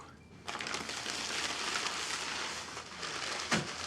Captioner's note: bag rustling